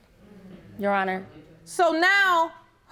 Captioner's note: audience groaning